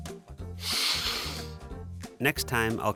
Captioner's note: normal vacuum sucking noises